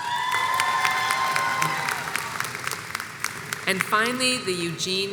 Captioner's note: crowd cheers